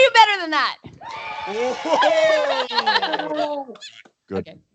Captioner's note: cheering